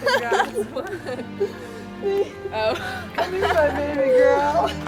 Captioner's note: all laughing